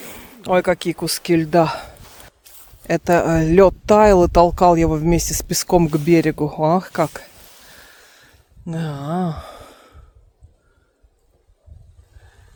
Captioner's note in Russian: тяжело вздыхает; вздыхает